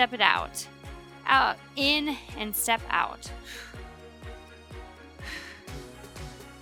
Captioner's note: breathes heavily